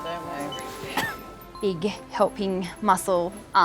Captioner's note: machine beeps